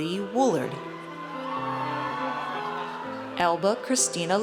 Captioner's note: audience cheers